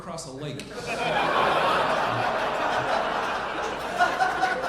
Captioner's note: audience laughing